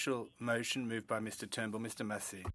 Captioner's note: speaking French